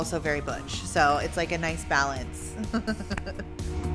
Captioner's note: chuckles